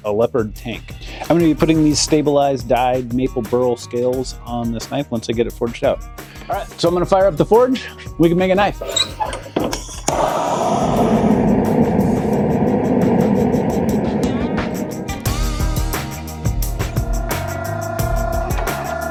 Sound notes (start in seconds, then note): 8.8 sound of forge igniting and metal being pressed